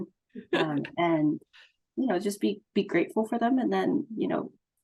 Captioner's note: laughter